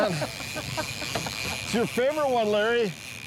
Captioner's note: laughing